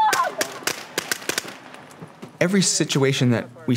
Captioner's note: woman screaming, blanks firing